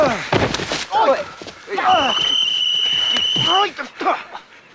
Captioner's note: whistle blows